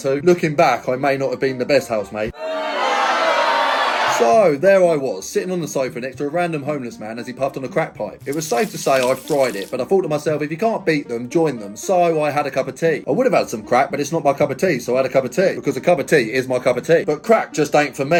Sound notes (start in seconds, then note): 2.3 people booing